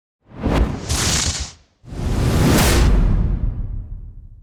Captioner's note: air whooshing